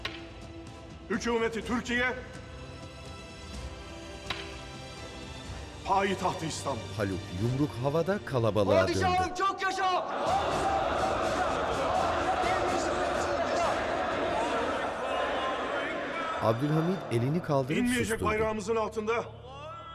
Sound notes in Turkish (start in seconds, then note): 4.2 Yere baston vurma sesi; 10.2 Hep bir ağızdan